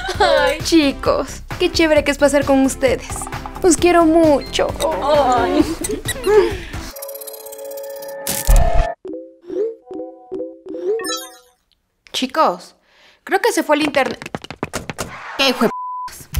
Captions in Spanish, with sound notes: Chicos, ¡qué chévere que es pasar con ustedes! ¡Los quiero mucho! *sonidos de notificaciones* Chicos... Creo que se fue el intern... ¡Qué hijuep*s!